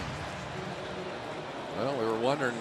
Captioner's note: pa announcement